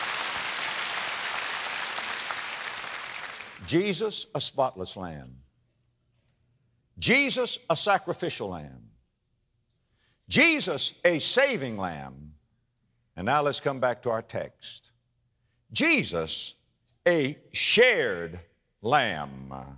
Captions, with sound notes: [APPLAUSE] JESUS, A SPOTLESS LAMB. JESUS, A SACRIFICIAL LAMB. JESUS, A SAVING LAMB. AND NOW LET'S COME BACK TO OUR TEXT. JESUS, A SHARED LAMB. REMEMBER WHAT WE'VE SAID THERE IN FIRST